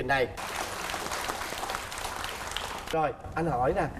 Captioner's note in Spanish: aplauso